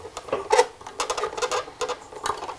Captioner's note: quiet creaking